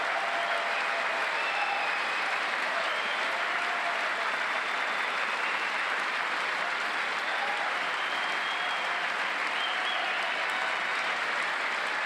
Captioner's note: cheers and applause; applause